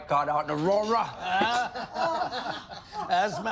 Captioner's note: all laughing